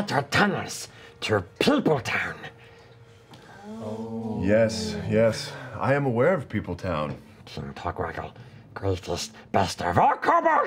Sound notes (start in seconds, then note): none